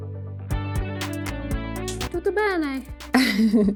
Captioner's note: upbeat music; speaking foreign language